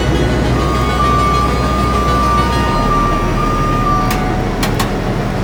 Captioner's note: tow truck beeping; car creaking